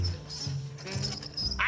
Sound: cash register rings

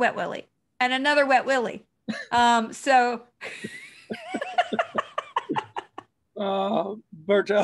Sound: laughter

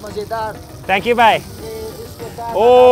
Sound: speaking in foreign language

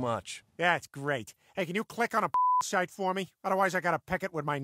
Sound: beep

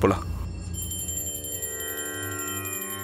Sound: prayer bell rings

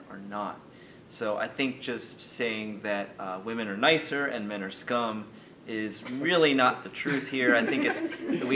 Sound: everyone laughs

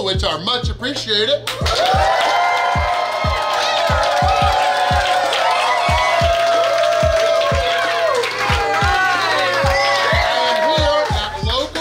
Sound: cheering & Clapping

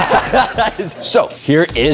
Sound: laughing

